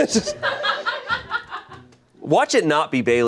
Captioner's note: crew laughs